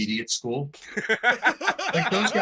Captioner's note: laughter